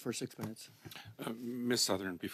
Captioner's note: speaking French